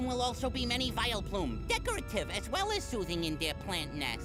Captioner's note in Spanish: voz normal